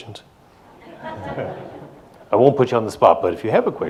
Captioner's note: audience laughs